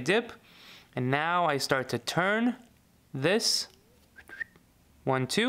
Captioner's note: whistles